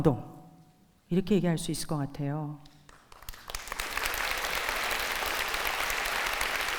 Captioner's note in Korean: 박수